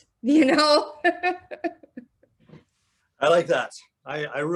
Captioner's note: laughing